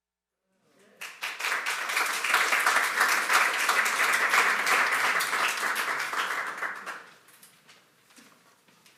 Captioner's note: applause